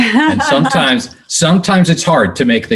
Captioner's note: chuckles